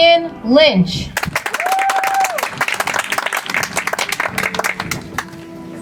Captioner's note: audience applauds